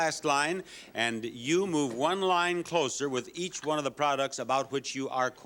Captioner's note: none